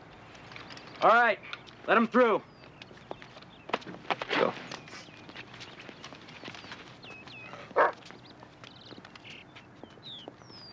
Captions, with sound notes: All right. Let them through. Let's go. [footsteps] [dog barking] [birds tweeting]